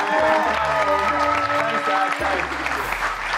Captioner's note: cheers and applause